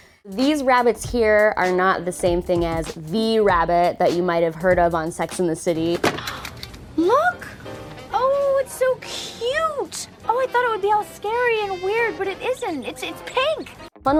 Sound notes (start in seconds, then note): 6.2 gasp